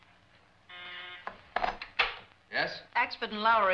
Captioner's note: intercom buzzes